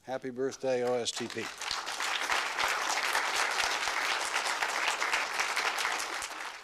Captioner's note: applause